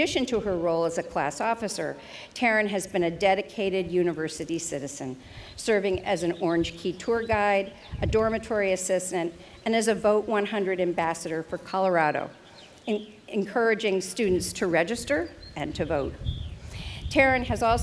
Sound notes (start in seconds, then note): none